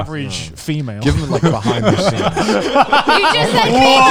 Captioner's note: all laughing